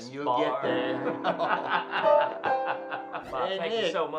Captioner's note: laughing